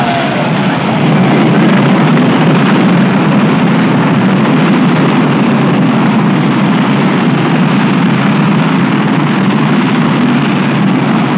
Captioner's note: sounds of rocket engine firing and lifting off